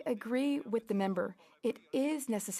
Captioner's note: speaking French